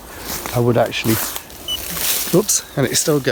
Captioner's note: leaves rustling; beeps